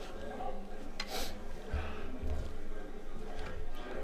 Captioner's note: ambassador sniffs; crowd mutters